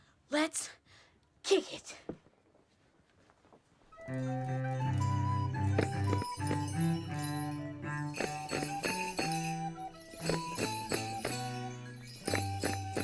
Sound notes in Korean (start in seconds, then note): 8.5 짤랑